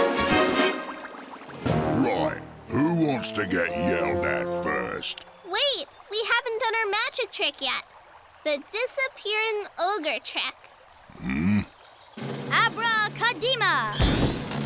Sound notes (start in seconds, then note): none